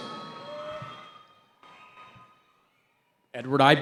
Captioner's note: cheering